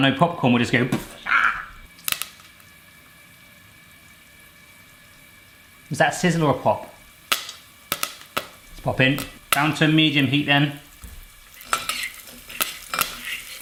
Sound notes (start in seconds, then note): 1.8 imitates popcorn popping; 3.9 popcorn sizzling; 7.8 popcorn popping